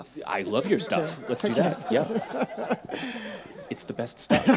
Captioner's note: laughs